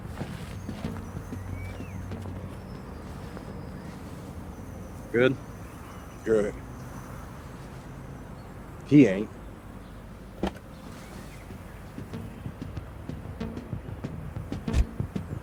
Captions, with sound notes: Good? Good. He ain't. (car door opening)